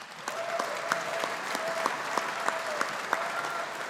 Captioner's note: audience applauding